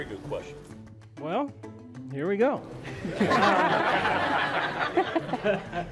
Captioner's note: everyone laughs